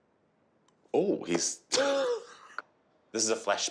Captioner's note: laughing